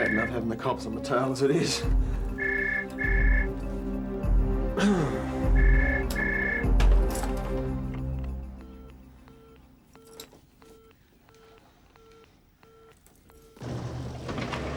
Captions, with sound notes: It's bad enough having the cops on my tail as it is. (dramatic music) (phone beeps)